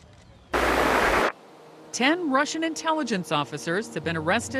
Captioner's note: static buzzing